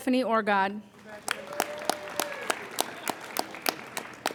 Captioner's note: applauding